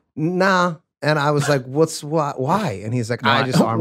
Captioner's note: Glenn chuckles